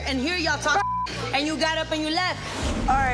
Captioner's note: beep